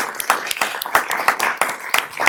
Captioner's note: applause